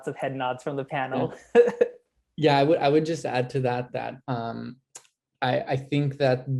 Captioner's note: laugh